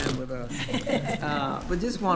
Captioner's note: attendees laughing